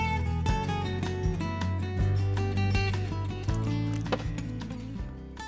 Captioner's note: water splash